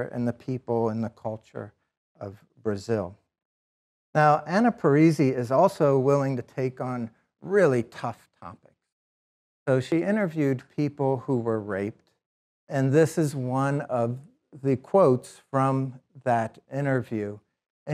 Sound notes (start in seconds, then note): none